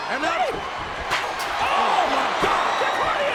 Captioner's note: chair thuds